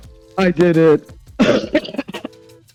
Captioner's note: laughs